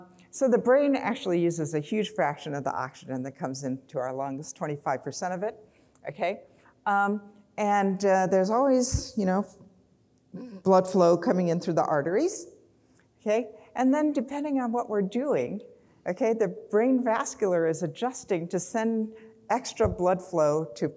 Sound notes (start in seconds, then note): none